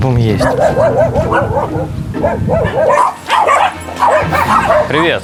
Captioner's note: dogs barking